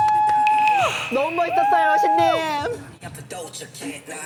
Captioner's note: lingering emotion sound effect